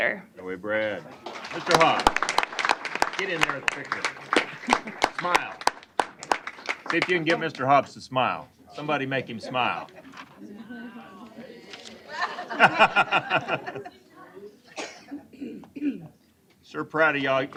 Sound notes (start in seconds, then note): 6.4 applause; 11.0 laughter